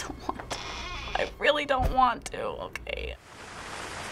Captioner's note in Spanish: En voz baja; puerta cruje; Lluvia cayendo